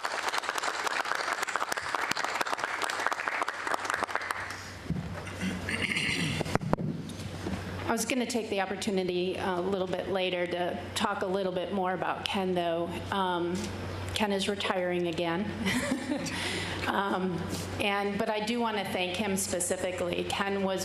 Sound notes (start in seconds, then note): 3.8 applause